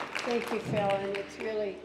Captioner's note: applause